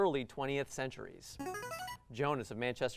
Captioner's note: buzzer